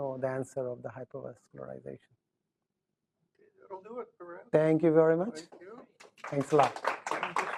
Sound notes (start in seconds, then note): 5.4 applause